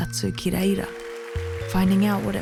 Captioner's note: audience applauds